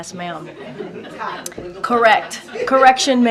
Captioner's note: laughter